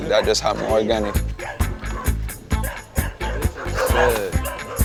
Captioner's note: dog barks